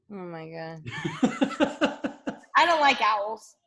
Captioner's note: laughs